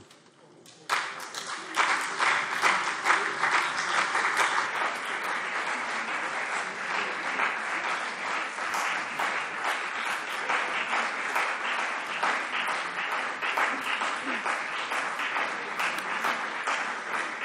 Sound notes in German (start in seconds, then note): 1.4 Anhaltender Beifall CDU und BÜNDNIS 90/DIE GRÜNEN - Zurufe AfD